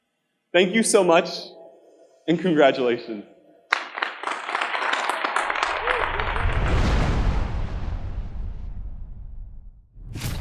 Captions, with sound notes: Thank you so much. And congratulations. (audience applauding) (logo whooshing)